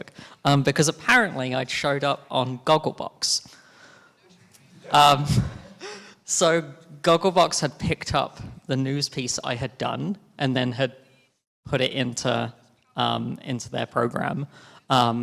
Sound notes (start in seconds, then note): 4.3 laughing